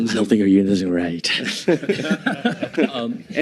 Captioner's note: audience laughing